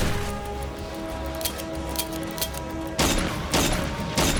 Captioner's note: gun clicking